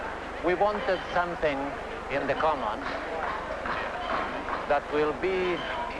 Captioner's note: background construction and celebration sounds